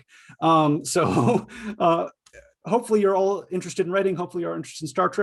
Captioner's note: chuckles